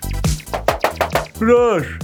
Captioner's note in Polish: Skoczna Muzyka; Pukanie